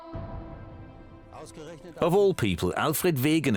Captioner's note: speaking German